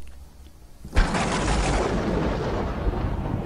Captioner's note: thundering occurs